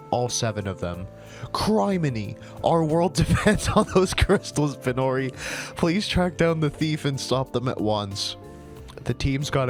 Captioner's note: cracks up